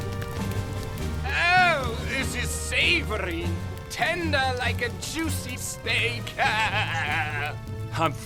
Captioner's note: laughs